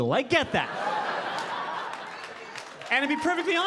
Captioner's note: audience laughing